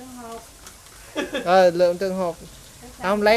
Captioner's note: laugh